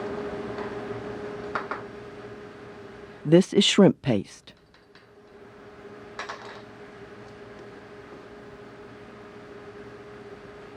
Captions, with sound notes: - [Voiceover] This is shrimp paste.